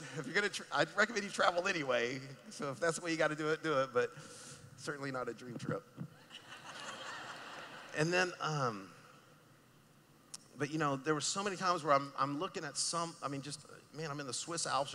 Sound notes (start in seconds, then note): 0.2 laughing; 5.9 laughing